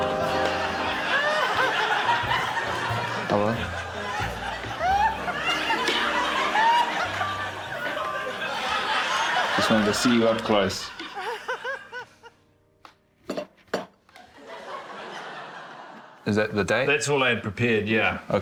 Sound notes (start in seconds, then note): 0.2 laughter; 5.0 laughs loudly